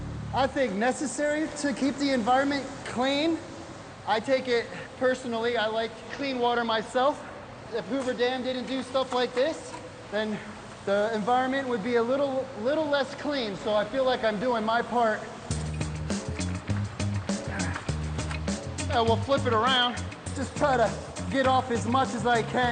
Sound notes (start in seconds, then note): 17.4 grunts